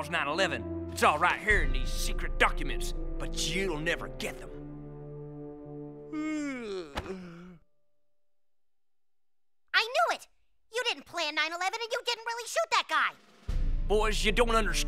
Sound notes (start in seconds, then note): 6.1 yawn